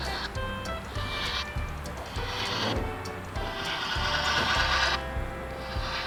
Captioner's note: upbeat music continues; train whirs